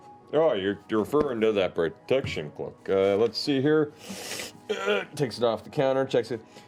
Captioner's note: grunts